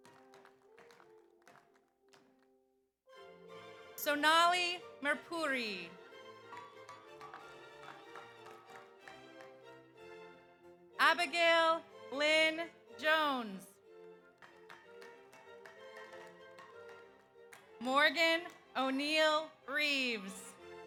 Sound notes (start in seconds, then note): 0.0 audience applauds; 6.0 audience applauds; 7.0 audience cheers; 14.3 audience applauds; 15.5 audience cheers